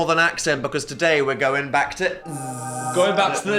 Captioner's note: buzzes